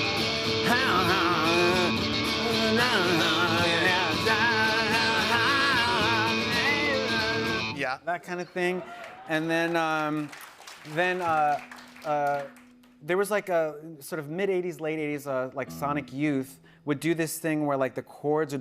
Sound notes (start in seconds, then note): 8.6 cheers and applause